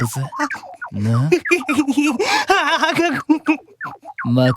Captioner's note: giggle